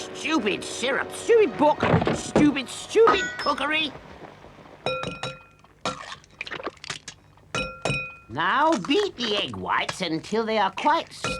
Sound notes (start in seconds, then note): 5.0 egg shells cracking